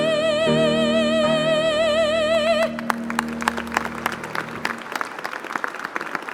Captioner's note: applause